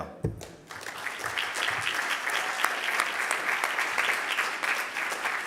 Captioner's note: audience applauding